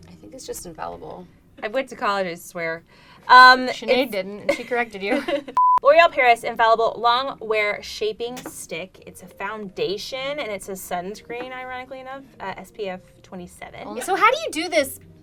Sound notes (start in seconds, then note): 5.1 laughs; 5.6 beep